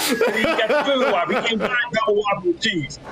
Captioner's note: laughter